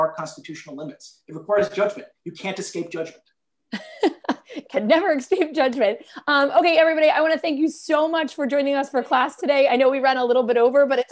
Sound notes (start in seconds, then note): 3.7 laughter